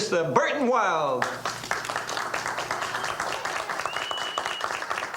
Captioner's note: audience applauds